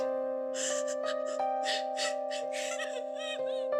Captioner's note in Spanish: Sollozos